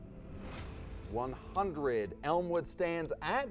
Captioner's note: whooshing noise